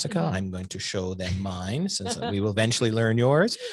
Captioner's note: laughs